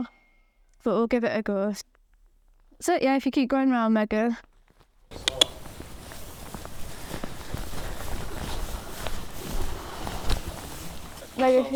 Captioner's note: clicks